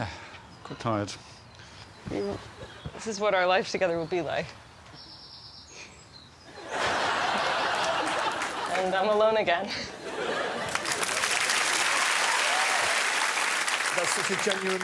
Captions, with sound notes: Yeah. Quite tired. Hmm, this is what our lives together will be like. And I'm alone again. [cheering and applause]